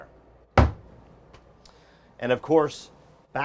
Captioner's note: header thuds